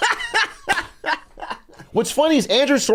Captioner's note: laughs